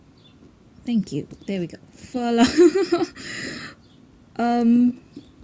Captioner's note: laughs